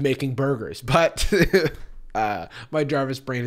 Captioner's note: laughs